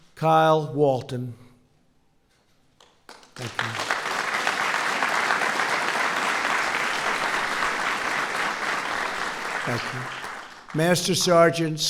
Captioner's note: applause